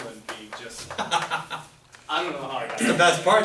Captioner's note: laughing